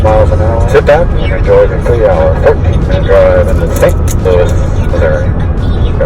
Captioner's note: muffled speaking over radio